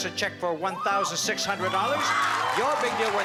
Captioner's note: cheering and applause